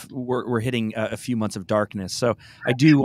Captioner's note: laughs